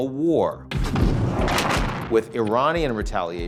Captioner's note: explosion booming